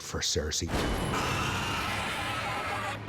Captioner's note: roars